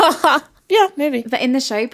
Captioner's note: laughing